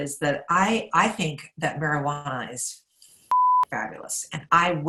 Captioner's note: beep